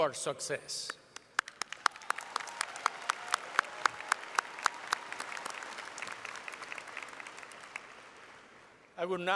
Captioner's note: applause